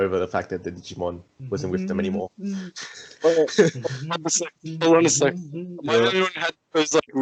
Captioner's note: hums